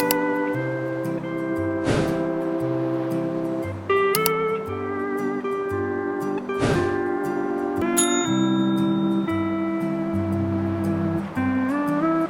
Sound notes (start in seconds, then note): none